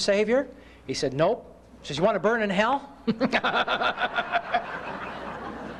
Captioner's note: laughter